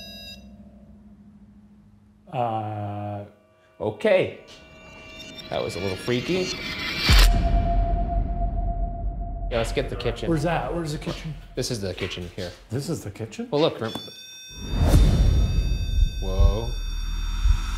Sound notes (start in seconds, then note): 7.0 tense foreboding music; 13.8 REM-Pod beeping; 14.7 dramatic music